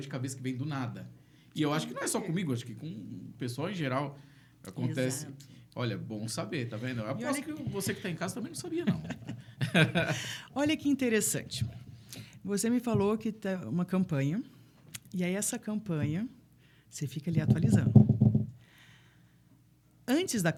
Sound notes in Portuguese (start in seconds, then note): 8.6 risadas